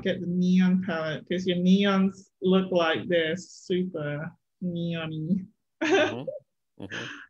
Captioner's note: chuckles